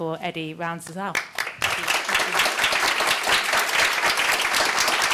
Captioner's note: applause